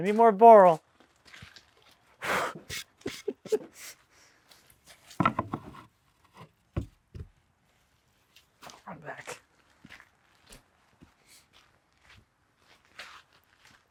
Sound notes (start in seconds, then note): 2.3 laughing; 4.9 wood scraping